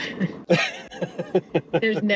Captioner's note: chuckling